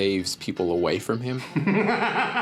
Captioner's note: laughing